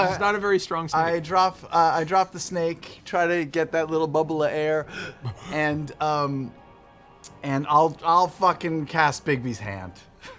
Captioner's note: gasps